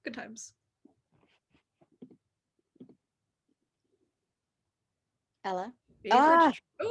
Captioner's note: silence